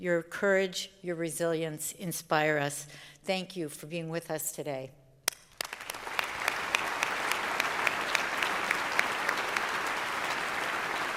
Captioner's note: applause